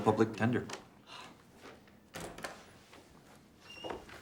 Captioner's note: Rene sighs